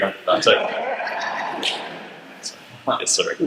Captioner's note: audience laughter